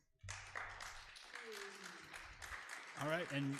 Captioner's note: audience applause